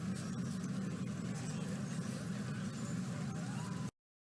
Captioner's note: street noises